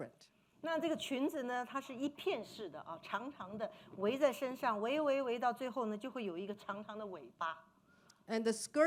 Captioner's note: speaking Mandarin